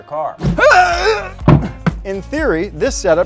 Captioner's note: grunting